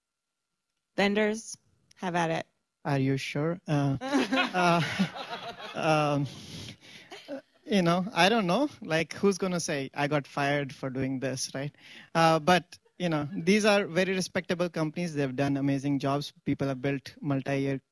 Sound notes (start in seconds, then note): 0.1 pause; 4.0 laughs; 6.0 laughter